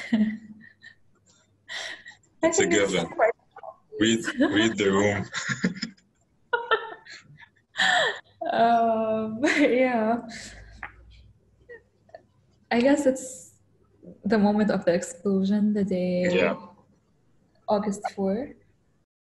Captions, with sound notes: - (laughs) This one is quite obvious. - Read the room. (both laugh) - Um, yeah. I guess it's the moment of the explosion, the day, August four. - Yeah.